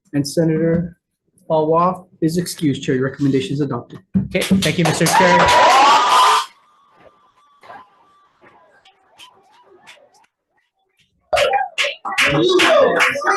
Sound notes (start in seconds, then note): 4.7 constituents cheering and applauding; 11.7 constituents clapping